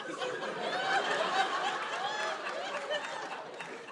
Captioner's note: laughter